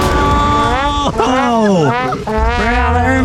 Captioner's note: whomp whomp